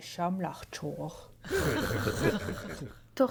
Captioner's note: laughter